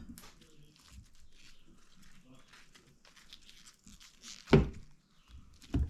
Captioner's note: crunching